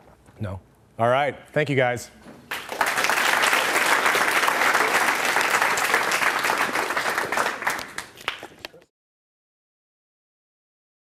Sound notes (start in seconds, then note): 2.4 applause; 9.1 silence